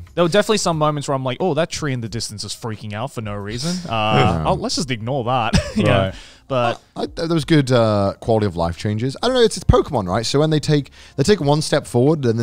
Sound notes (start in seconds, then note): 5.5 chuckling